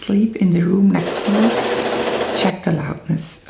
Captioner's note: sewing machine cranking